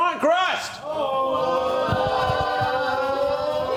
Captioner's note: crew cheers